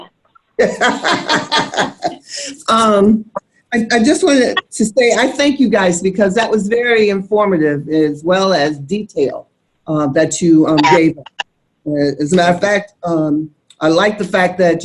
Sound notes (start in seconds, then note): 0.6 laughing